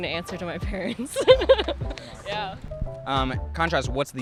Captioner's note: laughing